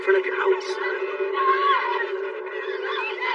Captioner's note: screaeamiming